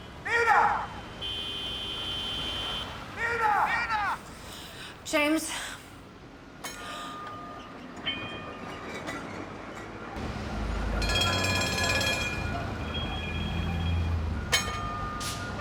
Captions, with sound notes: Nina! [horn honks] - Nina! - [delayed on phone] Nina! James... [trolley bell clanging] [clanging] [clanging heard on phone] [clang]